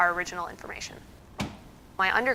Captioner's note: lid thuds